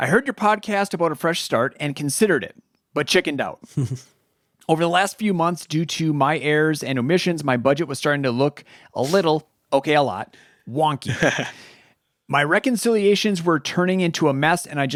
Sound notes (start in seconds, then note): 3.6 chuckles; 11.0 laughing